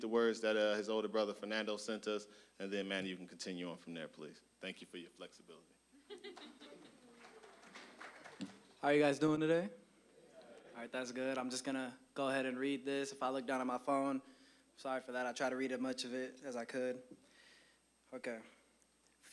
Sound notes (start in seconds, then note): 6.0 audience chuckling